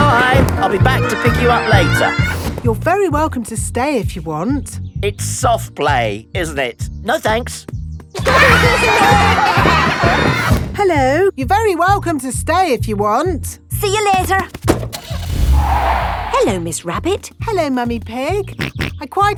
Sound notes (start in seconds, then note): 8.2 laughter; 14.9 car starting; 15.0 tires screeching; 18.8 snorts